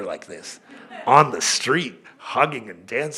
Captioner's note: laughter